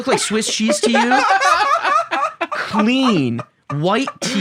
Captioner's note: laugh